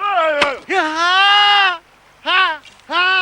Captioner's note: groaning